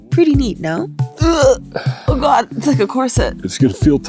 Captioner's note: groans